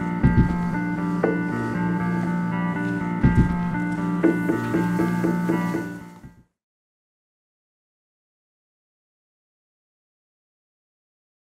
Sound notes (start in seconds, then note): 1.9 hand sliding on railing; 4.8 music fades out